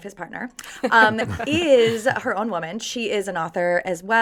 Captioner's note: group chuckles